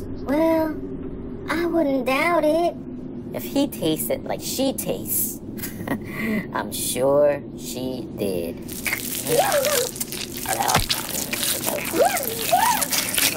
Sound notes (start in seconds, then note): 8.6 scorpions chomp